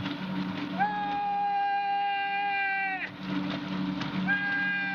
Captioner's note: screaming